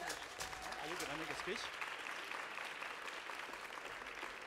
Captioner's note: audience applauding